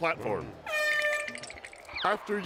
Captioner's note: air horn blows